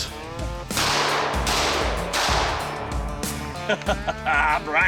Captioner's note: gunshots